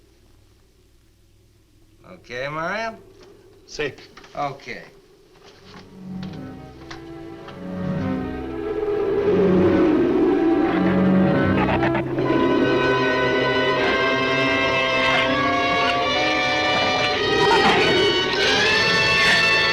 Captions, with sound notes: Okay, Mario? - Si. - Okay. (dark orchestral music) (wind howls) (shrew chatters)